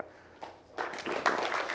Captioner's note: applause